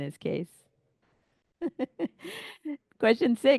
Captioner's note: laughs